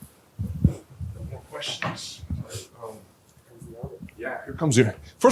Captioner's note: chatter